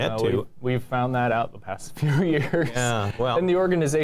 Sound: chuckles

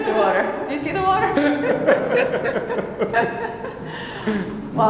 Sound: group laughing

